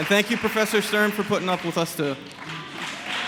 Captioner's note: applause